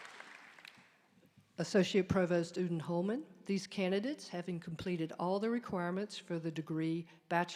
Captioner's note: applause